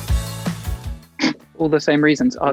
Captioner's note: Archie laughs